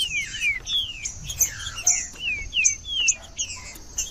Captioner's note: trinca ferro cantando